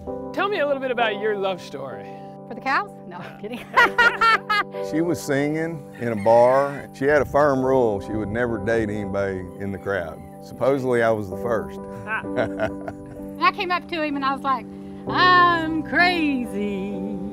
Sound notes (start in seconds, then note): 12.1 laughter; 15.6 singing